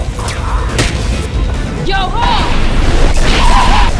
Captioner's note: shouting; laughing